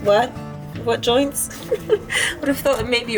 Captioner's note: laughs